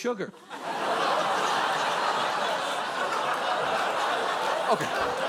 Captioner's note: studio audience laughs